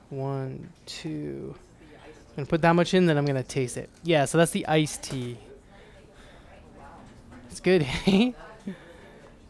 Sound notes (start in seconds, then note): 6.0 women chattering; 7.8 giggles